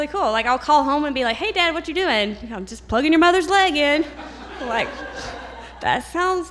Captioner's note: laugher